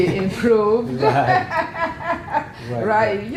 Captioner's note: laugh